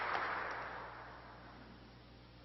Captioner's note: applause